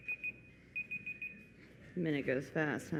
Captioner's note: beeping